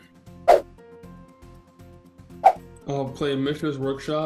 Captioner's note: fast whooshing sounds